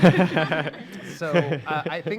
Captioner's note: laughing